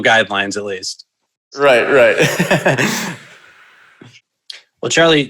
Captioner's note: chuckles loudly